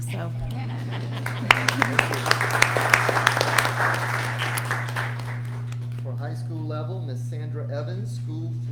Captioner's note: applause